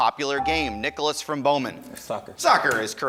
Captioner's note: ding